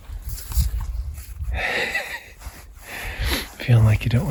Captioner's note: laughing